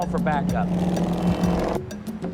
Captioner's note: horn honking